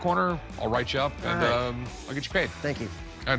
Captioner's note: laughs